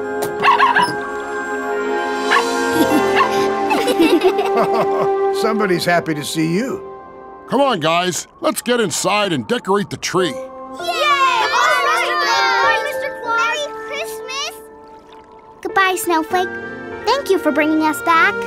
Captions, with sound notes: [barking] [laughing] Somebody's happy to see you. Come on, guys, let's get inside and decorate the tree. [cheering] - Bye, Mr. Claus! - Merry Christmas! Goodbye, Snowflake. Thank you for bringing us back.